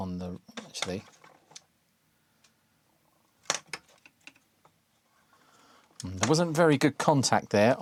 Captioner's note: keyboard Clacking